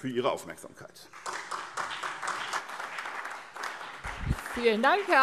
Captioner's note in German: Beifall SPD, BÜNDNIS 90/DIE GRÜNEN und DIE LINKE